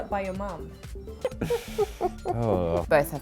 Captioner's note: laughs